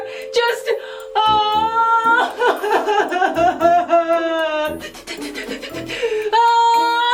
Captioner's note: crying